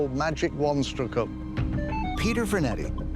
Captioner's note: detector chimes